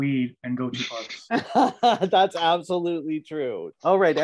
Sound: laughing

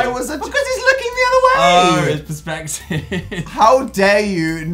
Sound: laughing

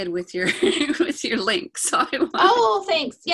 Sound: laughs

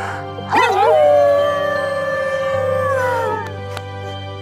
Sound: both howling

